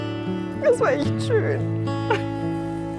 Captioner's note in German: weint